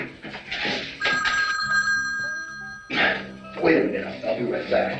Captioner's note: telephone ringing